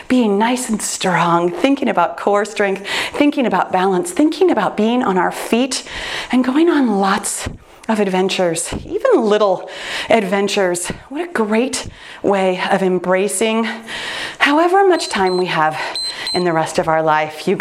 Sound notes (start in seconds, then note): 14.9 timer beeps